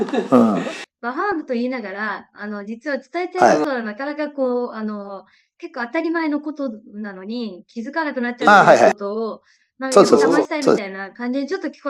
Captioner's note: laughs